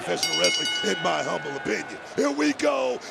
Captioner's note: bell rings